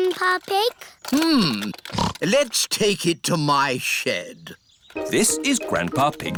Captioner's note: snorts